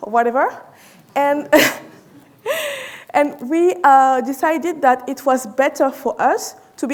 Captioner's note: chuckles